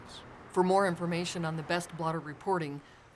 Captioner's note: sounds of vehicles driving on road